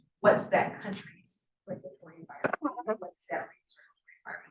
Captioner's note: sound distorted